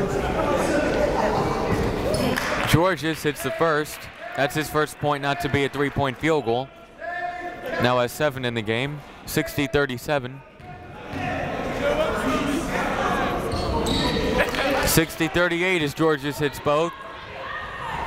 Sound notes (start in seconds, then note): 10.3 chatter